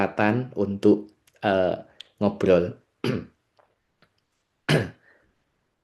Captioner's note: berdehem